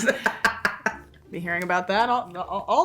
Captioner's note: Hannah laughing